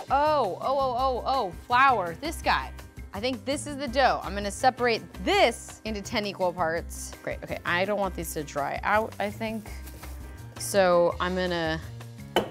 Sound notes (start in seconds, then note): none